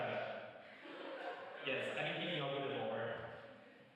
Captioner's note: laughter